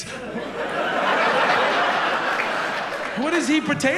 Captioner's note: laughter